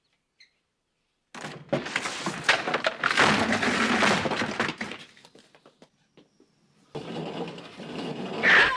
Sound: sound of breaking!

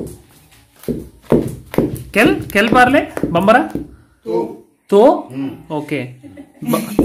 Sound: speaking in Foreign language

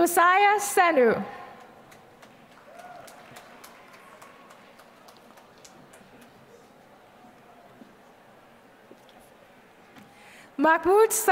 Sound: applause

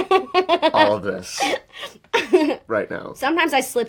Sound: she laughs

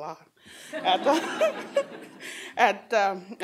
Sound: laughter

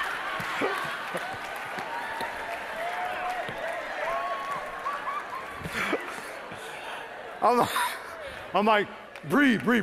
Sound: laughing

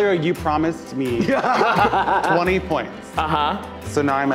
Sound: laughing

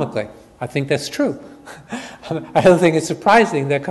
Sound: chuckles

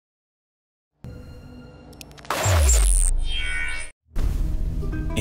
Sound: electric SFX

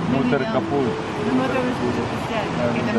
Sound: man speaking in foreign language

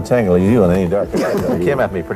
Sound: laughs

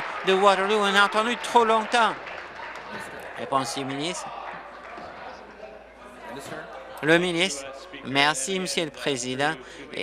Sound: applause

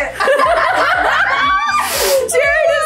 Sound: all laughing

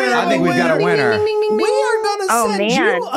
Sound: speaking faintly

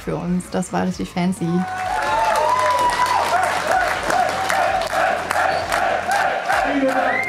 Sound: crowd cheering

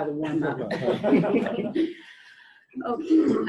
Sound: laughter

